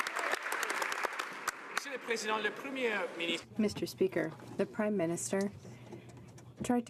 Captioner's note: some Applause